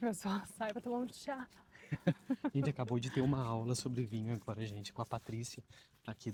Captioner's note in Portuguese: risadas